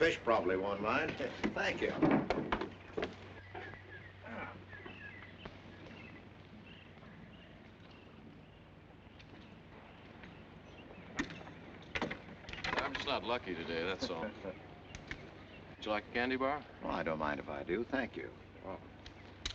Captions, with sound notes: but the fish probably won't mind, thank you. [ BIRDS CHIRPING ] - I'm just not lucky today, that's all. - [ Mr. WILSON CHUCKLES ] - Would you like a candy bar? - I don't mind if I do, thank you.